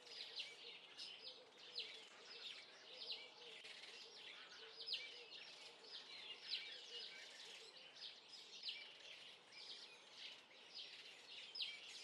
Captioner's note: birdsong